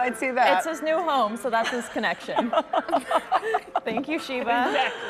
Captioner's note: laughter